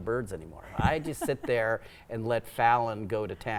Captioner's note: laughing